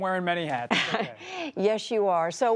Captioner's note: laughter